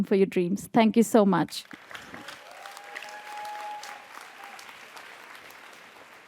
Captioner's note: audience applauds and cheers